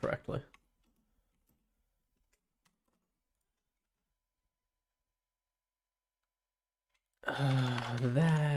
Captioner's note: silence